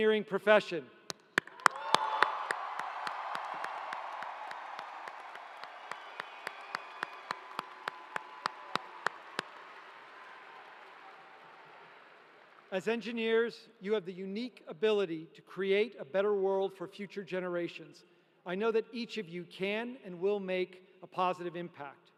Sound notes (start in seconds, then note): 7.6 cheering